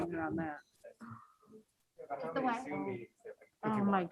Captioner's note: members chatting